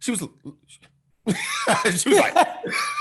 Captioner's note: laughing